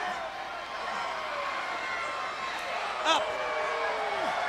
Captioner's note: crowd cheering